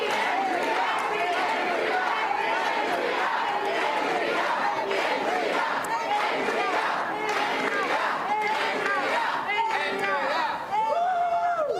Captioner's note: applause and cheering; Crowd chanting "Andrea"